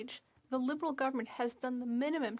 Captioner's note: speaking French